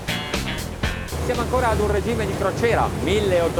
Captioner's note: speaking in foreign language